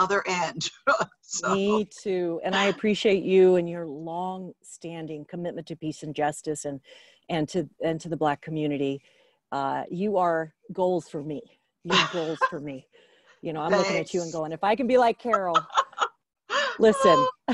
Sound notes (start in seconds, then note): 11.9 laughs